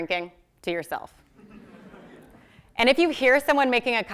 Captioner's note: laugh